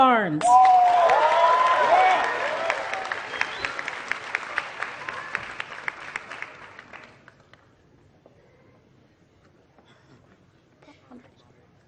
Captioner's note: applause